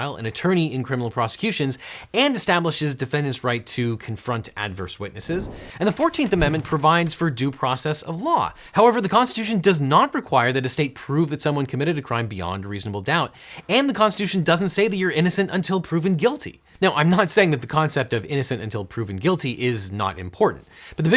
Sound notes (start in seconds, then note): 5.1 air whooshing; 5.2 paper rustling